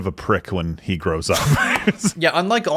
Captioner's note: laughs